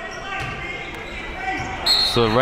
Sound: yelling and cheering; whistle blows

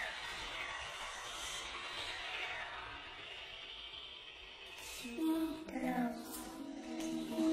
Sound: disembodied voices whispering continues

